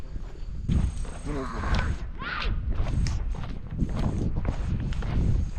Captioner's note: woman screaming